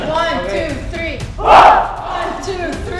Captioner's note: shouts